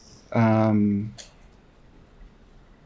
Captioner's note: long pause